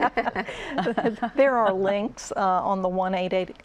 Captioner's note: laughter